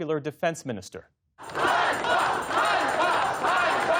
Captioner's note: chanting